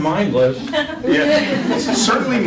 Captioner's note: laughter